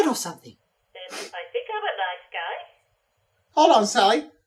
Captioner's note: Cataliss on Radio